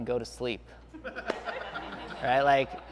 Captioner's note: laughing